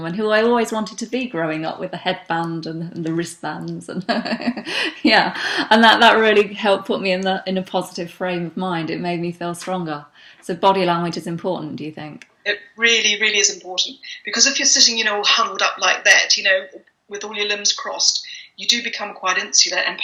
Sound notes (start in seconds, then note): 3.9 laughs